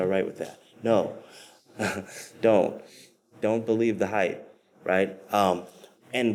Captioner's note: chuckles